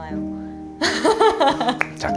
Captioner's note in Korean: 웃음